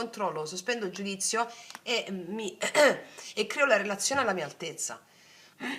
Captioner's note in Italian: schiarire la voce